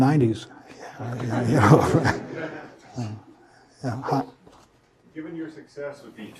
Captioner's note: laugh